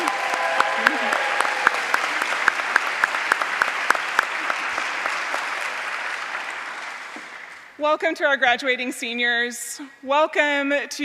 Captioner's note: applause